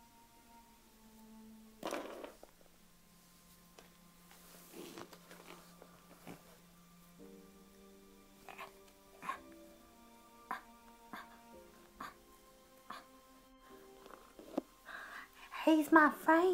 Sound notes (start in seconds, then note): 6.2 noises of moving